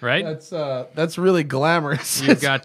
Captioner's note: laughter